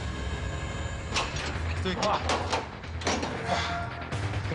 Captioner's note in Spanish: Sonido al abrir la puerta